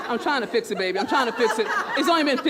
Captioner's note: laughter